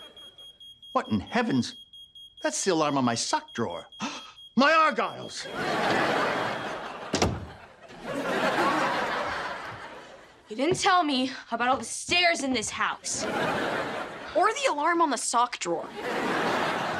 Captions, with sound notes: (ALARM BEEPING) What in heaven's... That's the alarm on my sock drawer. (GASPS) My argyles! You didn't tell me about all the stairs in this house. Or the alarm on the sock drawer.